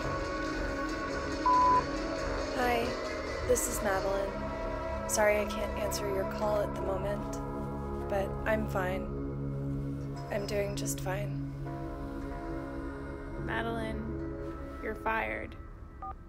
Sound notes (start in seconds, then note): 1.4 electronic beeping; 16.1 electronic beeping